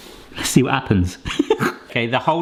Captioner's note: laughing